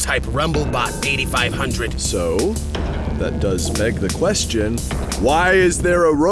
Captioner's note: bang